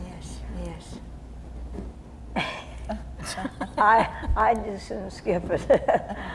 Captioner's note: laughing